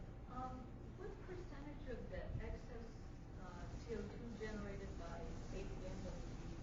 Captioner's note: woman Speaking